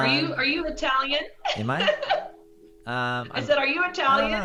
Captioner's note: laughing